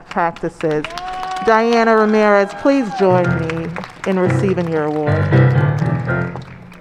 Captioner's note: applause, cheers and ♬♬ piano ♬♬